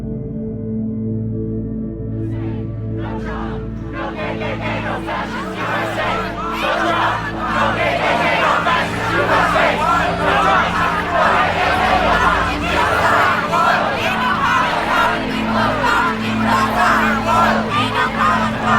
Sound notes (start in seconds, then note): 3.1 crowd